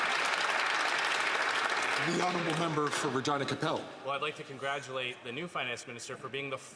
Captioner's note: some Applause